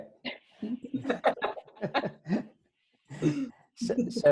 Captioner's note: laughing